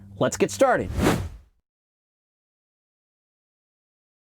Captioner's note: air whooshing